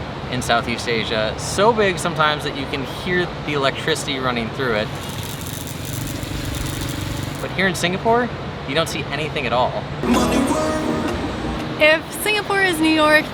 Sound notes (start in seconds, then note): 4.8 electrical buzzing